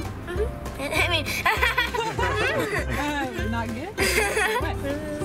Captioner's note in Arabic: يضحك